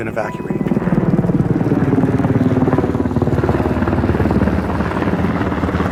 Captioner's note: airplane engine roaring